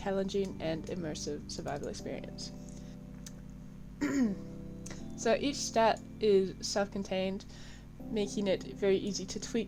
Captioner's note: ahem